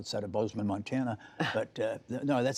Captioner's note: laughter